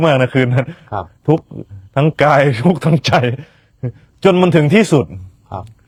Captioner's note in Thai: เสียงหัวเราะ